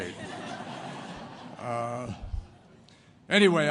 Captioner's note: laughter